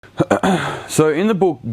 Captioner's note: clears throat